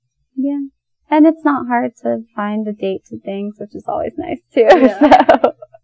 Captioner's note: laughs